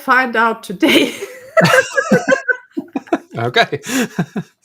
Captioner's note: group laughing